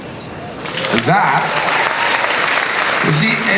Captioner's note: applause